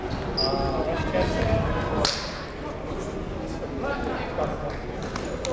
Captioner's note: people talking in the crowd